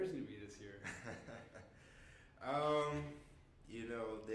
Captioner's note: laughing